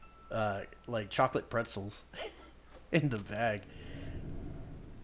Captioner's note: chuckles